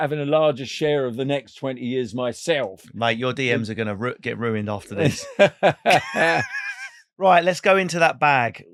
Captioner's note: laughing